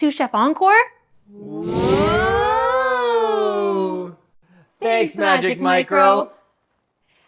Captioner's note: whoosh sound